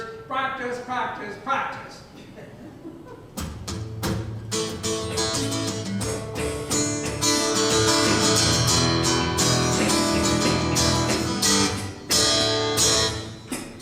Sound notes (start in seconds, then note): 2.4 audience chuckles; 3.7 guitar music begins